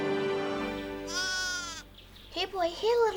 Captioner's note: lamb bleats